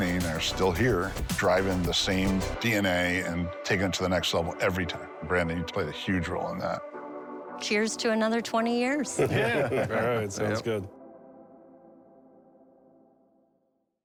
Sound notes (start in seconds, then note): 9.0 laughs